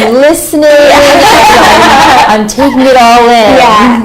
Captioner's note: laughter